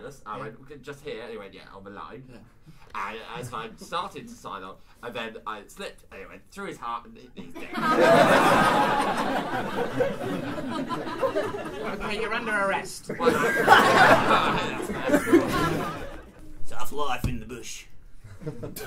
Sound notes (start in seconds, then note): 16.6 Australian accent